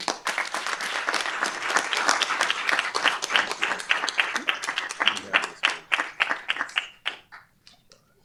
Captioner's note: applause